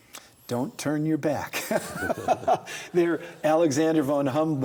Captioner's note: both laugh